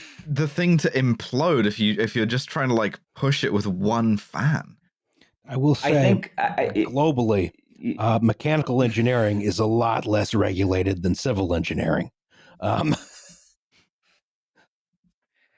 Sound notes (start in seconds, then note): 12.6 laughs